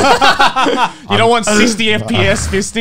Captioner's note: both laugh